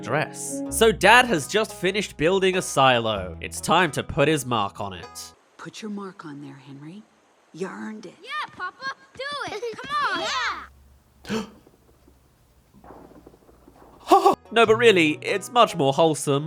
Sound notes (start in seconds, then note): 6.5 gasp